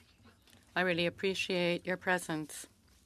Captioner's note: speaking French